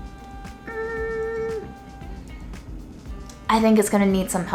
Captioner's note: hums